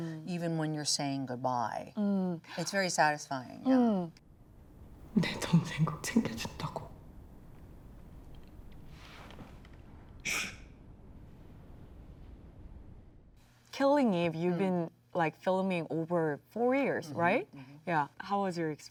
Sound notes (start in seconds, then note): 5.1 speaking in foreign language